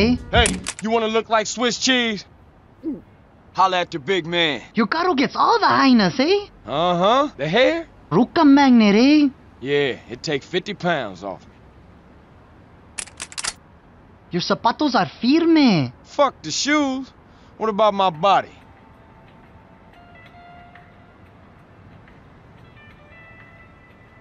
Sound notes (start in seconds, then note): 2.7 gulp; 20.3 awkward silence